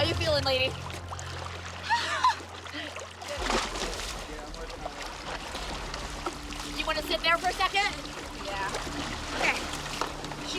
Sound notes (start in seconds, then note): 1.8 chuckles; 3.5 water splattering